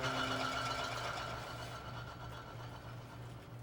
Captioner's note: bottles shaking